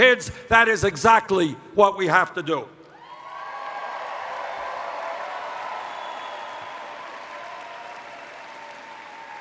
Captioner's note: cheers